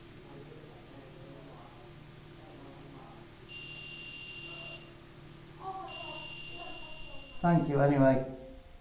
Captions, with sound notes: REM Pod (beeping) thank you anyway